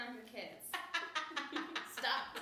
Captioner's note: laughter